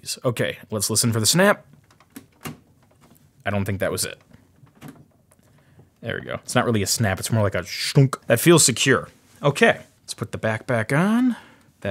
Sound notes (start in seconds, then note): 4.0 clicks